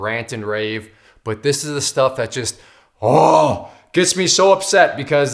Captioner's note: moans